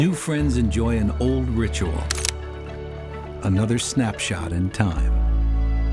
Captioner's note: camera shutter clicks